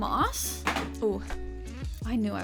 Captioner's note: box slamming